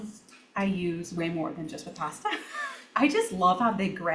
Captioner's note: chuckles